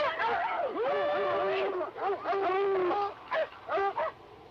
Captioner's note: dogs barking